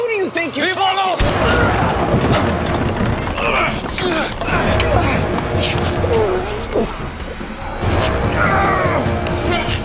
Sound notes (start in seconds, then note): 1.5 dramatic music; 2.0 gun rattles; 2.1 Mac thuds; 3.1 Mac groans; 6.1 dramatic music